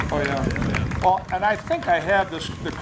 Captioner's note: applause